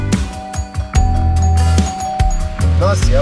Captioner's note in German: Handy klingeln